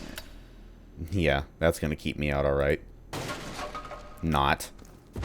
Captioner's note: smash